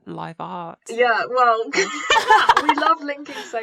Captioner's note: laughter